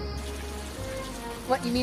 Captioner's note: running water